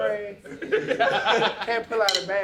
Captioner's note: laughter